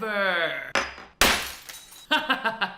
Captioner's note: glass shattering; laughs